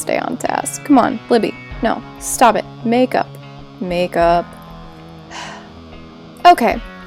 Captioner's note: sighs